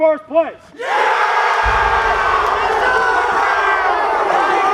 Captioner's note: trainees cheering